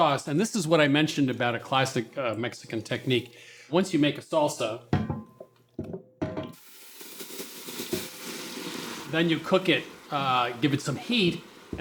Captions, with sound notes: Once you make a salsa... (sizzling) Then you cook it, give it some heat, and that develops flavor. So even though supermarket tomatoes that we all know have